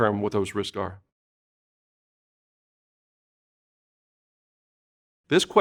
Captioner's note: silence